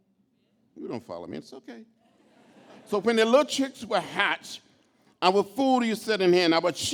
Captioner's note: laughter